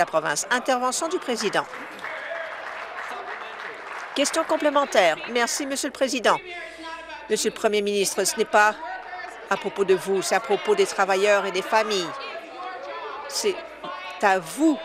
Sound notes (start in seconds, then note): 3.8 voice trailing